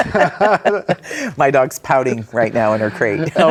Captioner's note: both laughing